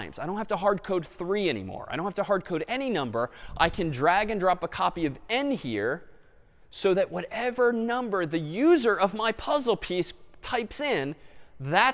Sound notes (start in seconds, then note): none